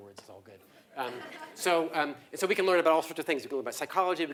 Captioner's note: laugh